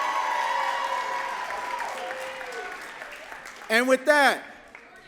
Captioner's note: audience cheering and clapping